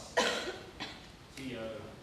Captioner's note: cough